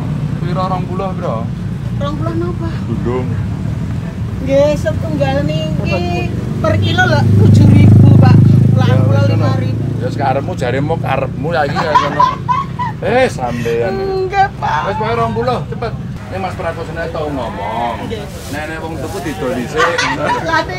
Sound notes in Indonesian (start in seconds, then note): 11.6 tertawa